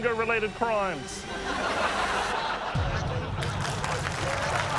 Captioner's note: laughter; applause